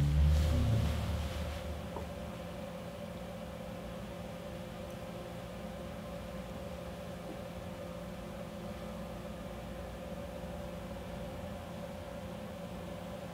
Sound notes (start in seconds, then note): 0.0 device humming